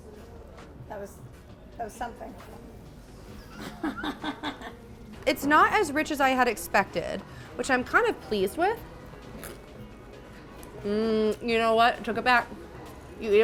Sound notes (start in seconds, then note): 3.3 laughs